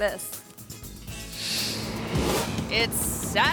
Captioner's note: air whooshes